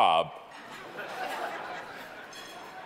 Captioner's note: audience laughing